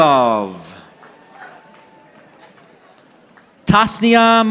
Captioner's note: audience applauding